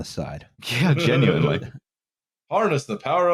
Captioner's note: laughs